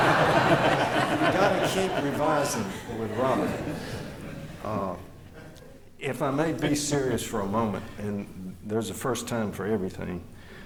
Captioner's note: laughter